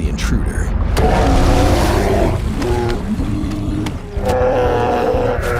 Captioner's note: bears growling angrily